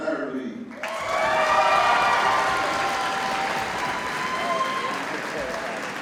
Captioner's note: audience cheers and applauds